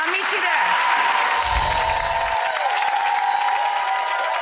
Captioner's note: applause